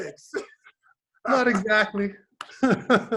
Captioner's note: laughs